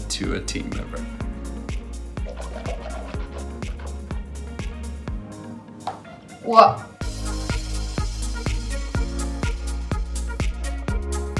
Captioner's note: swishing